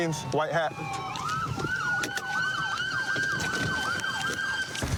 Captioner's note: siren wailing